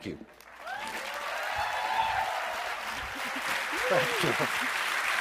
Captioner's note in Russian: бурные овации